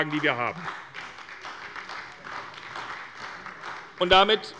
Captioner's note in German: Beifall bei der SPD